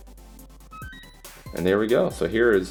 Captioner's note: beep